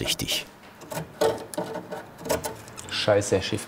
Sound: rumbling sounds

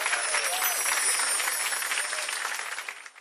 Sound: chime

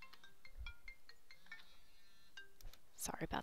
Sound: phone rings

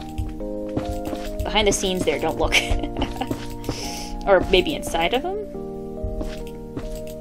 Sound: chuckles

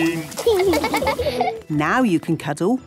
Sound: laughing

